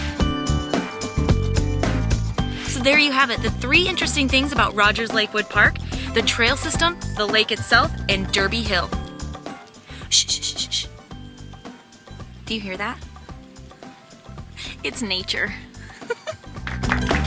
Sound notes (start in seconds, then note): 0.3 upbeat music continues; 9.8 shushes; 13.5 upbeat music continues; 15.8 chuckles